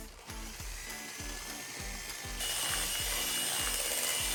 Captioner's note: mixer whirring